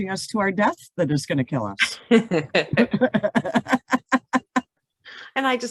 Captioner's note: laughs